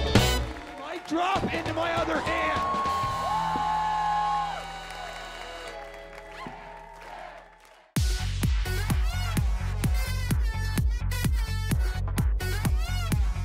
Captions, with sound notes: - Mic drop into my other hand. (cheering)